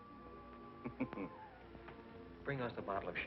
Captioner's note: chuckles